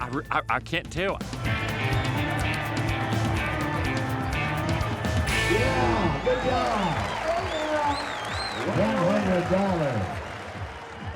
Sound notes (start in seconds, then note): 7.2 crowd claps, cheers